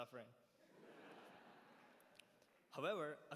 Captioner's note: laughter